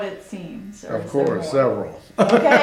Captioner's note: laughs